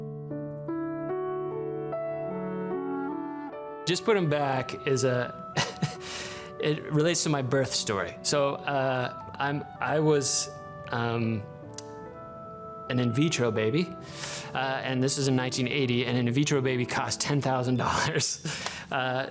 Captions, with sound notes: (gentle music) Just Put Him Back, (laughs) it relates to my birth story. I was an in vitro baby, and this was in 1980, and an in vitro baby cost $10,000. (chuckles)